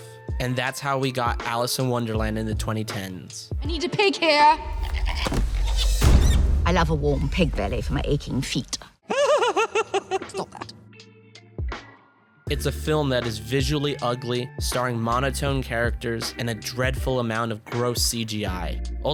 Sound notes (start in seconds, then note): 9.0 Weird Depp laughs